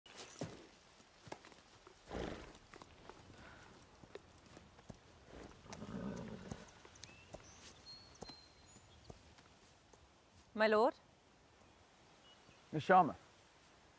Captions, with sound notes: [horse snorts] My lord. Miss Sharma.